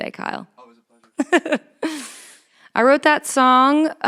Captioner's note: chuckles